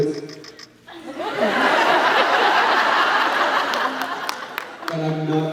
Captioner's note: laughs